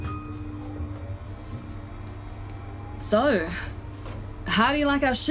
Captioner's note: the lift engages and whirs